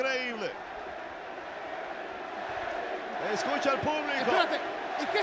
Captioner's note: applause